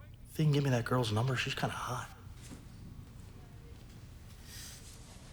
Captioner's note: none